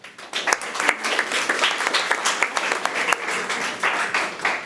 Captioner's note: audience applauding